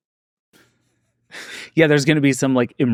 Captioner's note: laughs